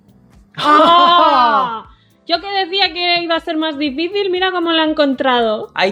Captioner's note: surprised noises